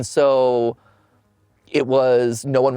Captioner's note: sighs